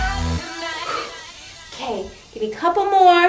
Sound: exhales forcefully

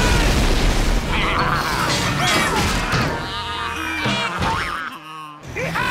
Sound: baaing

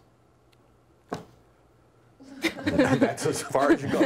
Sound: laughter

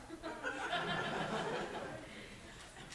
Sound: class laughing

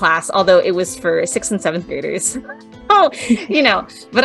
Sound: laughs

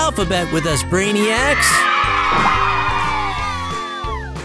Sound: kids cheer

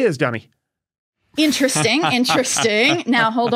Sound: chuckles snidely

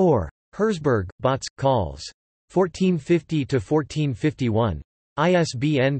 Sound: in German

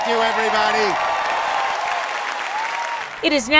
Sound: cheers and applause

